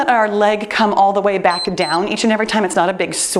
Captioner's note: timer beeps